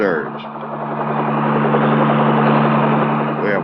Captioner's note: plane engine noise